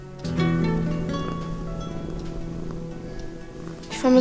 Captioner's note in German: Schnurren